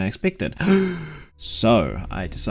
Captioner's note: gasp